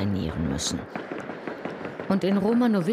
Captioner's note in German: Dumpfe Schläge